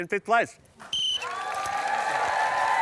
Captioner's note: blows whistle